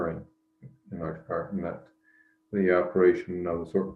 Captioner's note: murmuring